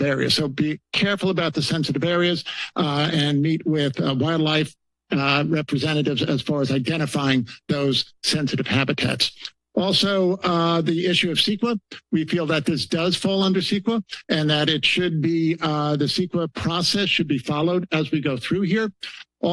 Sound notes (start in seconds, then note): none